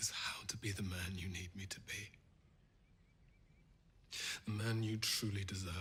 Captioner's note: birds chirping